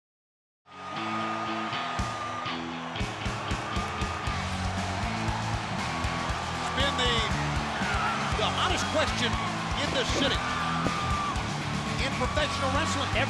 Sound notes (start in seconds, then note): 1.1 crowd cheering; 1.1 upbeat rock music